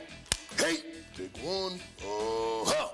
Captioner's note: clapperboard clapping